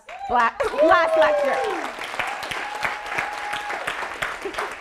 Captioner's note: audience applauding